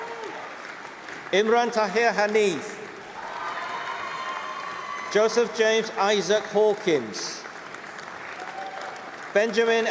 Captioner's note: applause